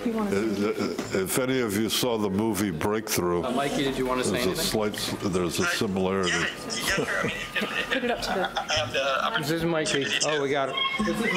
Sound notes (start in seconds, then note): 6.2 murmurs